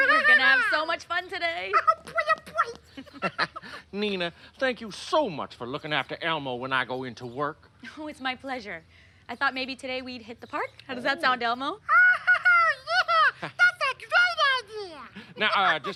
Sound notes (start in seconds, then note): 1.7 Elmo laughing; 11.8 Elmo laughing